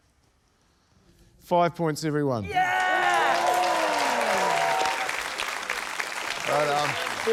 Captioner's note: cheering, applause